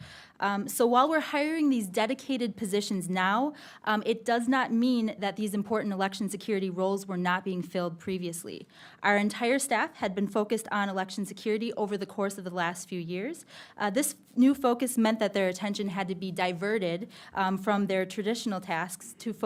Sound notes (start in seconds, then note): none